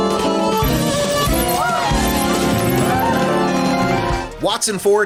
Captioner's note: recorder playing; cheering